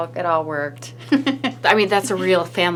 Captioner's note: laughing